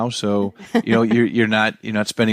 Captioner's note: chuckles